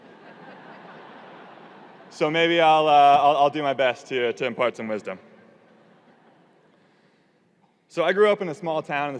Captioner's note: audience laughing